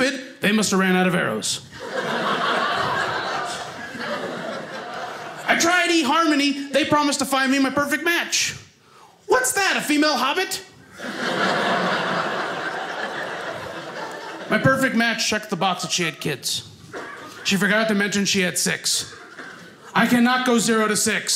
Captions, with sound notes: They must've ran out of arrows. (audience laughing) I tried Eharmony. They promised to find me my perfect match. What's that? A female Hobbit? (audience laughing) My perfect match checked the box that she had kids. She forgot to mention she had 6. I cannot go 0 to 6.